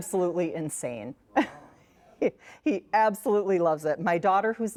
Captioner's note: laughs